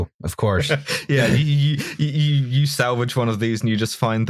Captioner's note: laughter